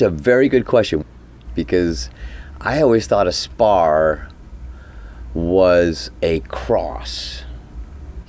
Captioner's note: cockpit Room Tone